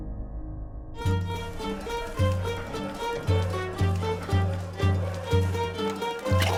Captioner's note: upbeat music; people laughing